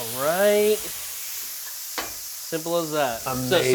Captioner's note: pan sizzling continues